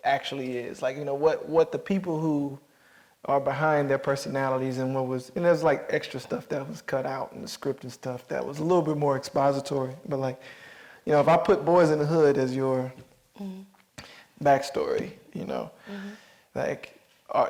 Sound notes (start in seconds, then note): none